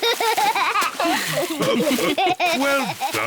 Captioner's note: all laugh; laughs